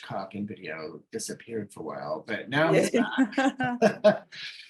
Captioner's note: both laughing